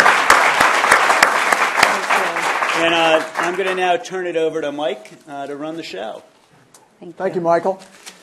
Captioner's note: applause